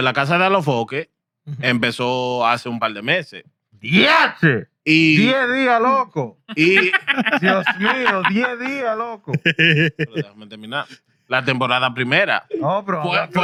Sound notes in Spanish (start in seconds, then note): 1.6 Hablando en idioma extranjero